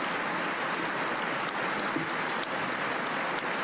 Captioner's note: applause